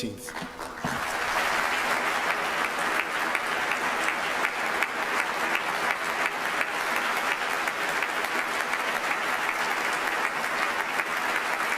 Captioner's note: applause